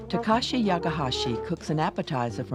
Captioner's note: voiceover